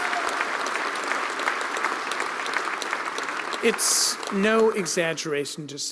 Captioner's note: applause